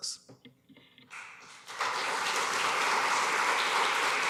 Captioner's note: applause